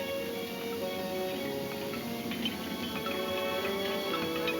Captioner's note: metal clanking